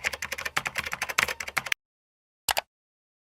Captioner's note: typing on a keyboard; mouse click